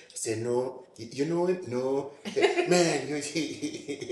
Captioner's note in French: rires